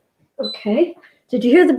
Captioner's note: beeps